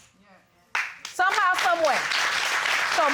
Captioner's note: applause